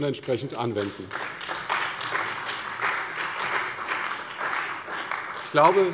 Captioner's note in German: Beifall bei der CDU und bei Abgeordneten des BÜNDNISSES 90/DIEGRÜNEN